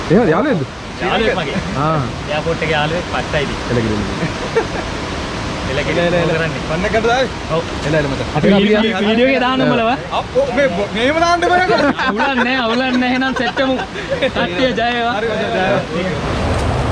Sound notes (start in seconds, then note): 13.8 laughing